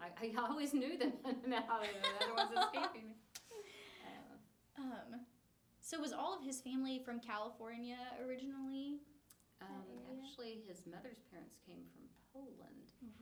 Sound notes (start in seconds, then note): 1.8 laughing; 1.8 laughs